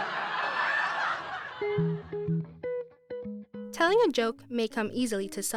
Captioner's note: audience laughing